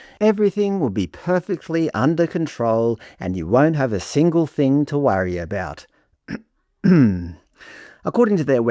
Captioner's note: clears throat